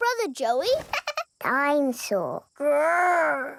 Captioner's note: chuckles